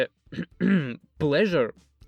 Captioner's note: clears throat